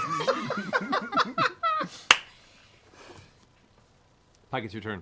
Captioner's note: laughter